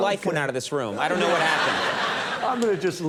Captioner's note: audience laughing